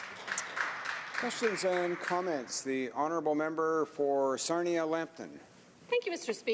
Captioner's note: applause